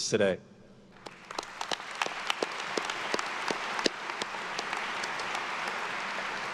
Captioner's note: attendees cheering and applauding